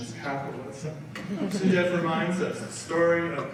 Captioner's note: audience laughs